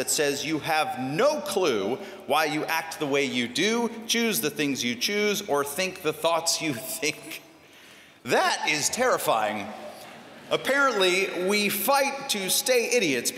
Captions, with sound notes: says you have no clue why you act the way you do, choose the things you choose, or think the thoughts you think. [CHUCKLING] That is terrifying. Apparently, we fight to stay idiots.